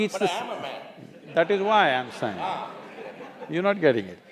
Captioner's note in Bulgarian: смее се